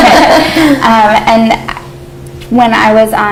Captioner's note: laughter